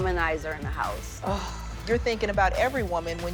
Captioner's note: sighs